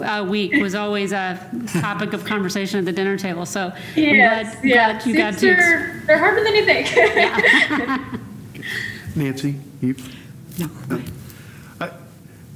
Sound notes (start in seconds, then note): 6.4 laughs